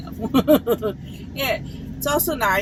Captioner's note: laughs